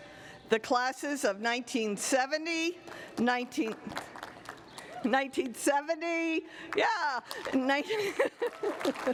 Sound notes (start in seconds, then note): 3.7 applause